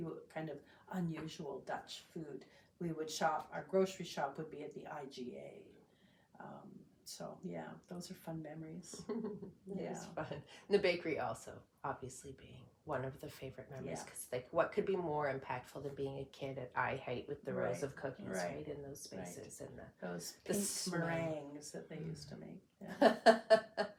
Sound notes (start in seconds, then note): 9.0 laughs